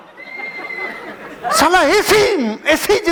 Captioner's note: laughing